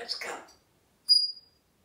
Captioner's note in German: tweet sound